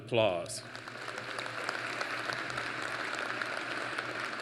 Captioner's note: applause